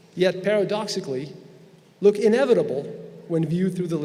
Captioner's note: none